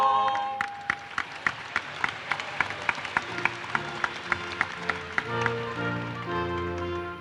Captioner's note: applause